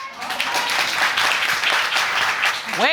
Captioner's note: audience applauding